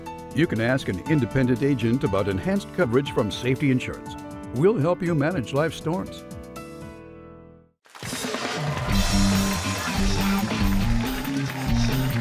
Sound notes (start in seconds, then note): 7.9 cheers and applause